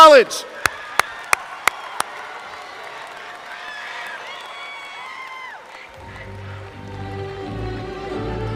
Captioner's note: applause